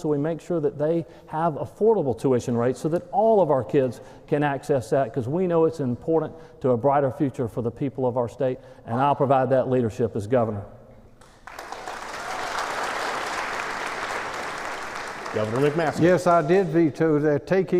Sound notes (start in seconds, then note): 11.2 applause